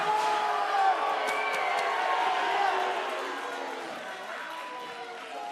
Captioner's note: cheers and boos